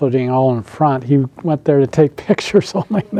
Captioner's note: laughs